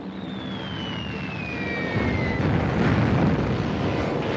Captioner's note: exploding